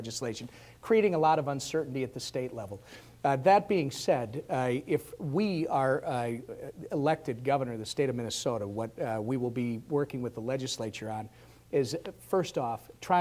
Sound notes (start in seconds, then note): none